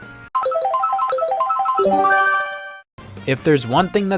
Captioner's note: Mario Kart item roulette sounds